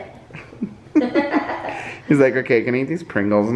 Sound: laughing

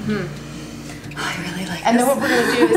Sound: laughing

